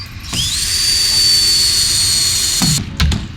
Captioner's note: drilling